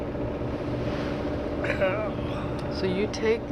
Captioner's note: groans